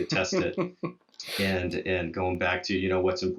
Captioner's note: laughs